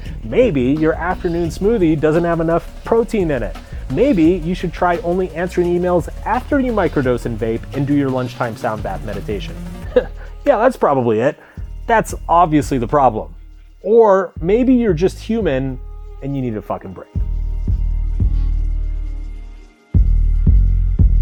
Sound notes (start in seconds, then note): 9.8 chuckles; 17.9 light upbeat music